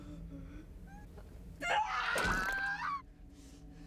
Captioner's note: screams